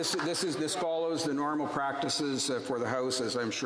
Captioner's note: some Applause